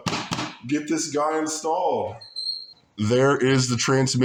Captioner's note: taps case